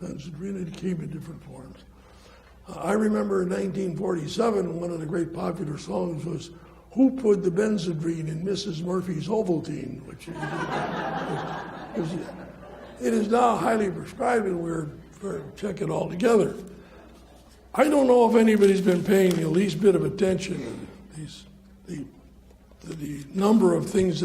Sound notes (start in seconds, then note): 10.3 audience laughs